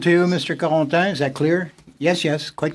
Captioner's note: speaking French